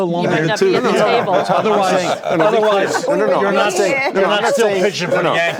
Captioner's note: group chattering